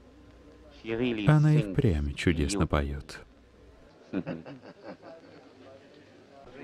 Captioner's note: chuckling